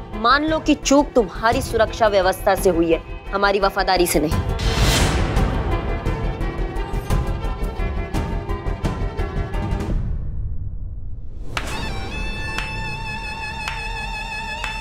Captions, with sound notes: Accept that the there was a lack in your security arrangement. Not in my loyalty. [tense music] [claps]